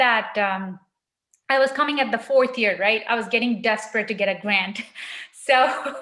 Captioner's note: laughs